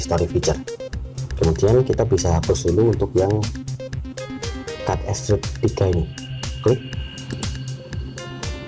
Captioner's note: click